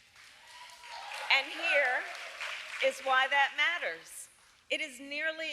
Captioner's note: applause